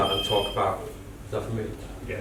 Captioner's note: phone ringing